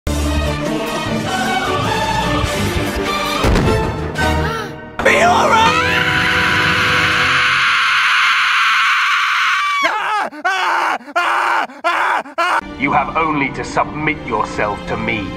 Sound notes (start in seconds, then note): 4.4 gasp; 10.5 Screams in Peter Griffin